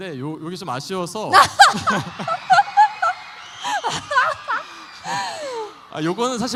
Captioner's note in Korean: 환호